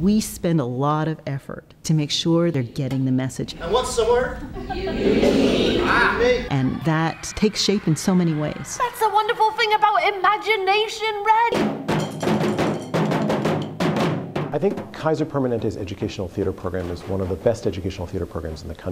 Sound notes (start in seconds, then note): 3.5 audience replies